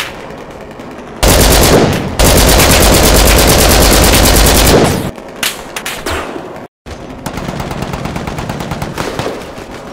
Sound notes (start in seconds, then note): 0.0 bullets Impacting & Ricocheting; 1.2 LMG fire; 7.2 distant LMG fire